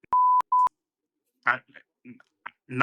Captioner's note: beep